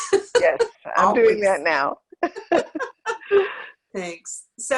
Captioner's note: laughs; laughs